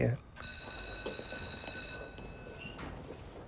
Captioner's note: school Bell Rings